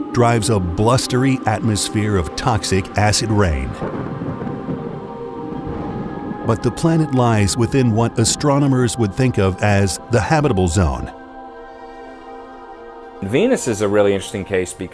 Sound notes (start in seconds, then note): 3.9 lightning clapping; 3.9 thunder rumbling